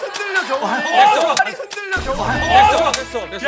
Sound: click

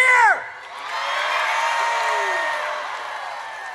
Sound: audience cheers

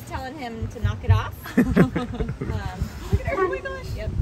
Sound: family laughing

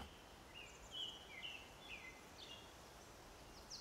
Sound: birds chirping

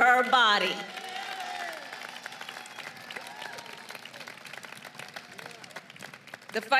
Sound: applause

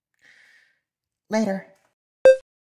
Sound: inhale

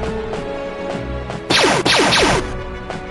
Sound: blaster fire

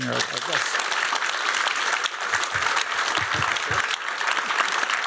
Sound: applause

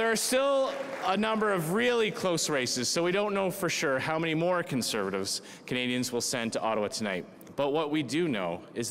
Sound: cheering

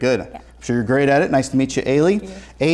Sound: none

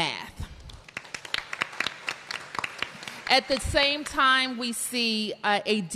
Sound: applause

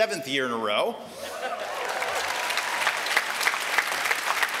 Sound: applause

